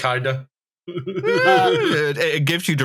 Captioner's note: chuckles; high-pitched vocal sound